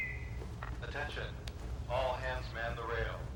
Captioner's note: whistle trilling; man On PA